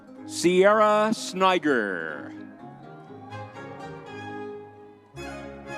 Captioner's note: crowd cheering